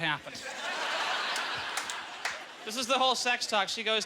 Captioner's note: audience laughter